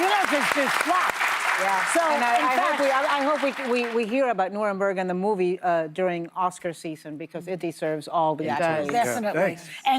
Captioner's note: applause